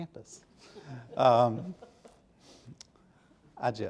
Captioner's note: audience softly chuckling